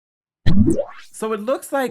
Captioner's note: screen whooshing